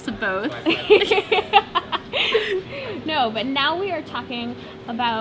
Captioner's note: laughter